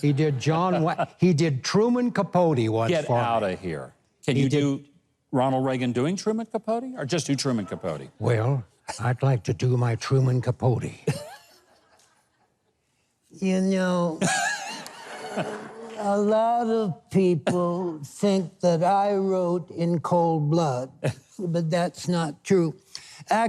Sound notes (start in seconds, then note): 14.2 Mike and audience laughing